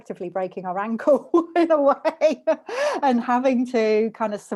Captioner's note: laughs